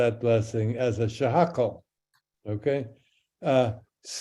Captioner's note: speaks in Hebrew